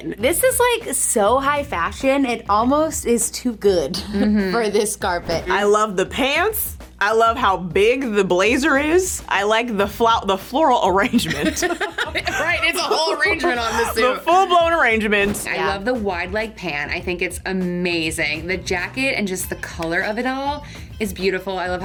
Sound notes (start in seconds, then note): 11.1 laughing